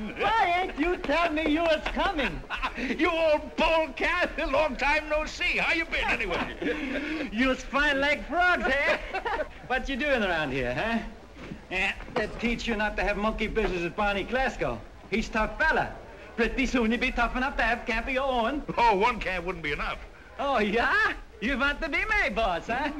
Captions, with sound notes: WHY AIN'T YOU TELL ME YOU WAS COMING? YOU OLD POLECAT, LONG TIME NO SEE. HOW YOU BEEN, ANYWAY? JUST FINE LIKE FROG'S HAIR. WHAT YOU DOING AROUND HERE? THAT TEACH YOU NOT TO HAVE MONKEY BUSINESS WITH BARNEY GLASGOW. HE'S TOUGH FELLA. ( Swedish accent ) PRETTY SOON YOU'LL HAVE CAMP OF YOUR OWN. ONE CAMP WOULDN'T BE ENOUGH. JA? YOU WANT TO BE MY BOSS?